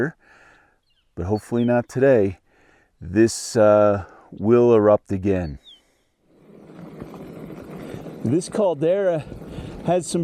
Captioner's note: wind noise